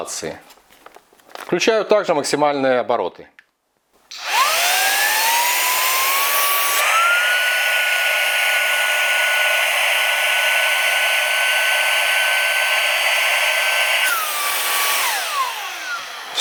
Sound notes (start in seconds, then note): 8.4 motor noise